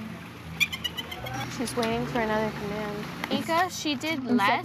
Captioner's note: Nica chirps